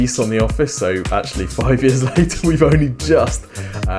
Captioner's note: chuckling